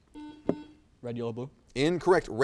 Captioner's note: buzzer